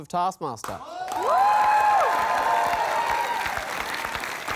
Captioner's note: cheering and applause